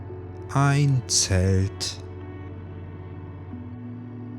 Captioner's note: german